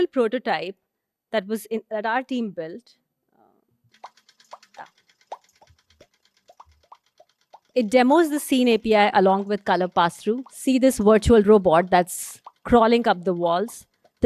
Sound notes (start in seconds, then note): 3.9 robot walking